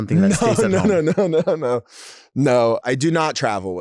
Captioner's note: laughing